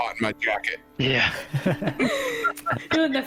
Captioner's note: sympathetic laugh